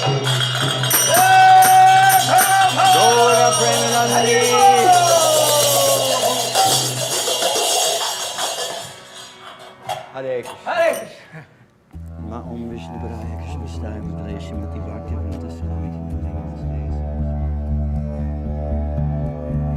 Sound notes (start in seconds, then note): 0.9 cheering; 1.6 chanting; 11.1 speaking foreign language; 13.5 praying in foreign language